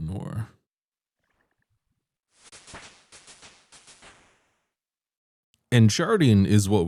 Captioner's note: level up fireworks